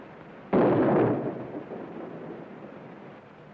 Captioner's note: gun firing